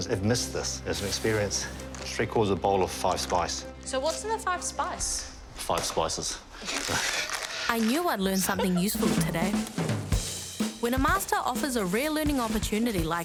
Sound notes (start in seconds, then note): 8.4 laughter